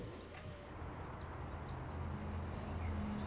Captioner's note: birds chirping